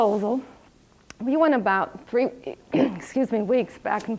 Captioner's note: clears throat